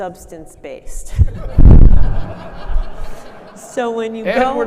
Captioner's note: audience laughing